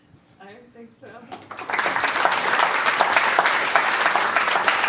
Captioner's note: applause